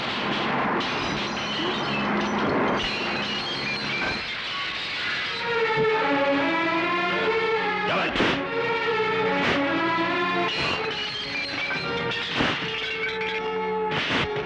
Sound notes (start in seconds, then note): 0.2 lamps and glass shatters; 10.2 vase shatters